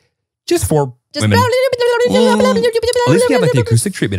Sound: blabbing

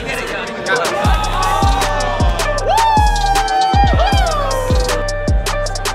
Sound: group screaming in excitement

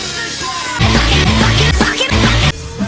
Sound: high pitch, repeated x4

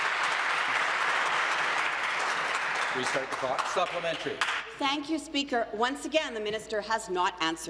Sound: applause

